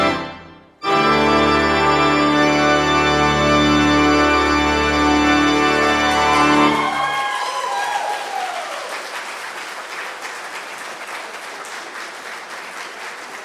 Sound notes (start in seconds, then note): 5.3 congregation applauds